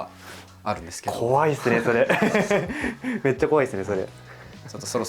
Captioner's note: laughs